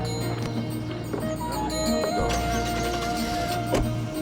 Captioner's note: engine turns over